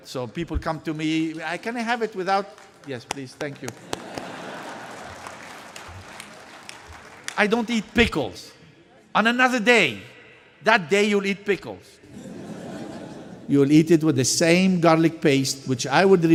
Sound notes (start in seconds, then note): 2.3 early applause; 3.8 applause